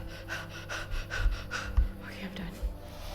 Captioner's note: panting